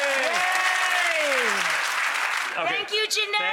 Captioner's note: applause